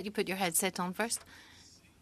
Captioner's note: speaking French